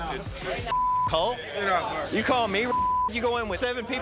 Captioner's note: beep